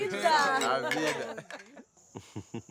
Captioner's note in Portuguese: risos